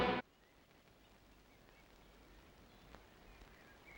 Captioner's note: birds chirping